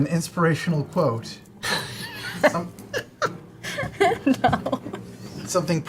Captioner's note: laughing